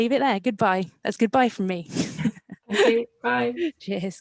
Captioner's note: laughs